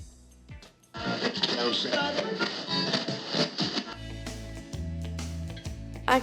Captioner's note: radio switches frequencies